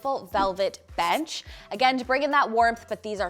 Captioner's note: marker skritching